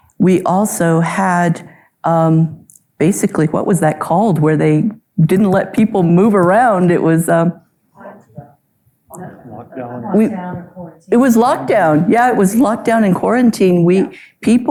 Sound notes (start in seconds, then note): 9.2 audience speaking